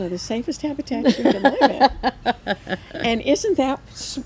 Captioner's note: laughs